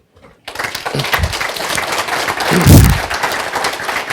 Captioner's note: audience applauds